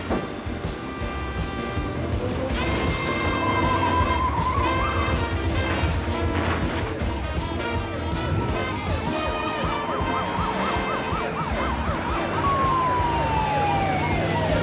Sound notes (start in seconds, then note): 6.7 siren blaring